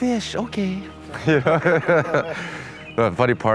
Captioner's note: laughing